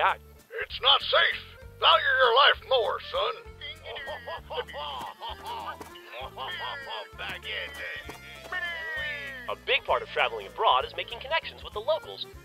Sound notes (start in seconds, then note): 3.9 distant vague inaccurate French noises